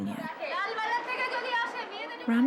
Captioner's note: speaking Indian language